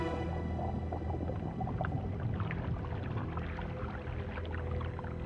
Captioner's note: water bubbling